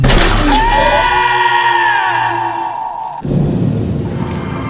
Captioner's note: Reginald yells; suspenseful music